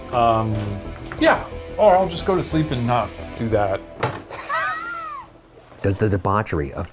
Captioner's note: laughs